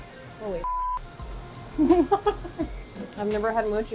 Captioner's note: beep